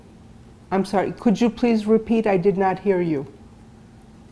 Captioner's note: none